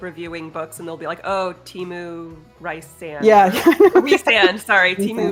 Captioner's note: laughs